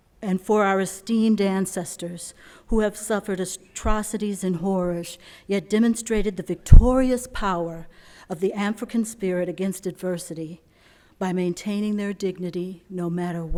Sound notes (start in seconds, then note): none